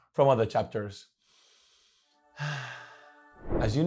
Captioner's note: sigh of love